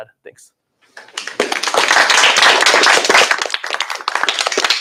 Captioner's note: applause